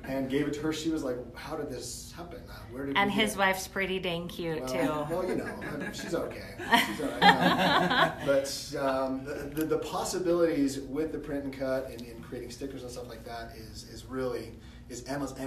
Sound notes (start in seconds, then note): 7.6 laughter